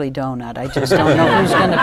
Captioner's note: laughter